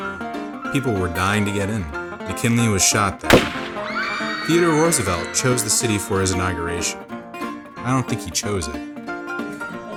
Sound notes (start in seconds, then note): 3.3 gunshot and screams